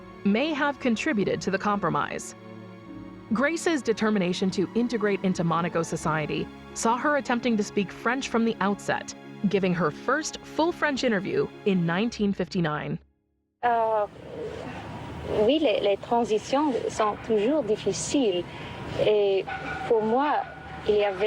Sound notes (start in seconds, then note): 13.9 Grace speaks in French